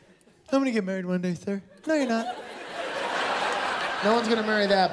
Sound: laughter

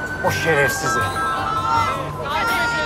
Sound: phone rings

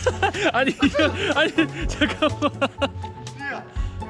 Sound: laughs

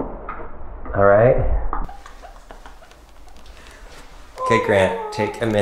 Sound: laughing

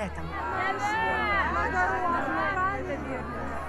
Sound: raring of the crowd

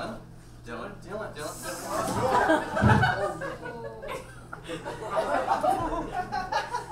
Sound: audience laughs

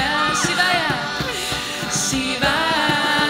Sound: none

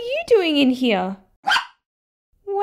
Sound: bark!

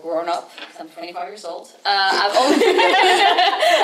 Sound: everyone laughs

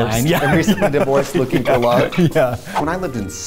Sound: laughs

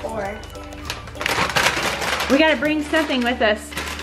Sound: bag crinkles

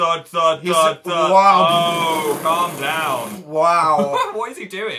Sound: makes weird sound effect

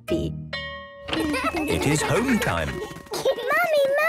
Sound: school bell ringing

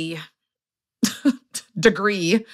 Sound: laughs

